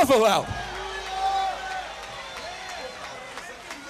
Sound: crowd cheering

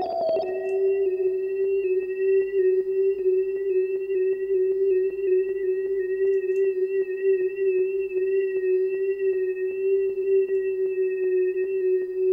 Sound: nauseating sirens

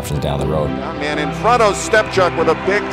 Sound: cheering

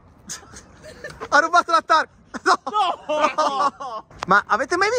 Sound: laughters

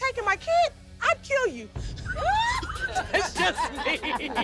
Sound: laughs

